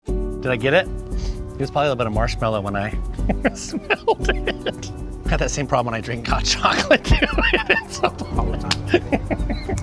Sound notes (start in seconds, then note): 0.0 melodic music; 1.1 sniffs; 3.2 laughs; 6.5 laughs